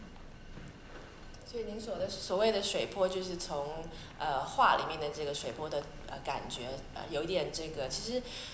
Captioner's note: Mandarin